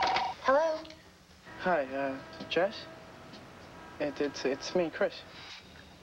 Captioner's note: telepne rings